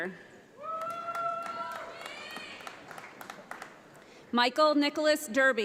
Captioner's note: audience applauds